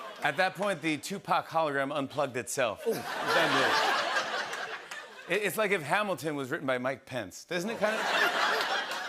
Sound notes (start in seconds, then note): 2.8 laughter